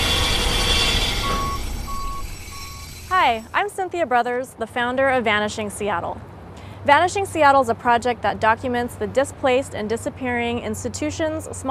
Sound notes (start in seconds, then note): 0.0 beeping